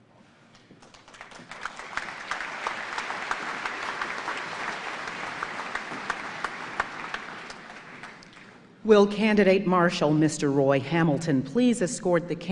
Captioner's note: applause